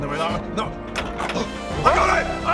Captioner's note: unlocks